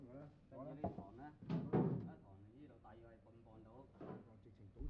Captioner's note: speaking Chinese